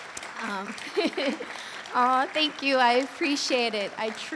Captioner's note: audience cheers and applauds; laughs